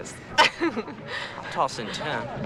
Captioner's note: girls giggle